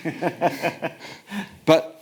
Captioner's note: laughs